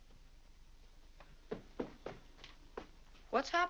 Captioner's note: footsteps up stairs